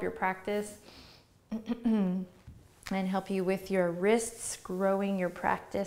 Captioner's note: clears throat